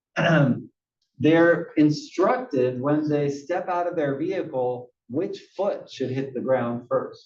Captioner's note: cough